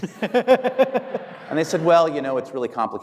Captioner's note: audience laughing